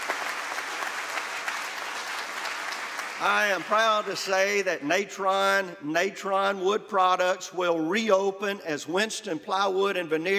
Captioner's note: applause